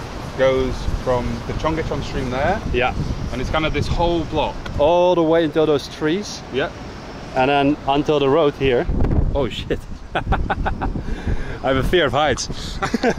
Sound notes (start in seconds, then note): 9.0 wind; 10.0 fearful laugh; 10.1 공포에 질린 웃음